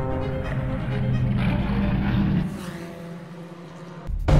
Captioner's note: engine revving